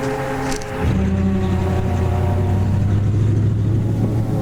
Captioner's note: car engine revving